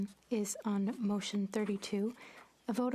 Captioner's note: speaking French